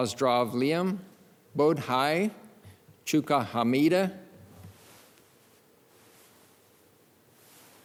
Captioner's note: speaks in foreign languages